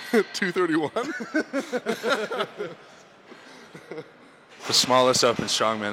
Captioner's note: both laughing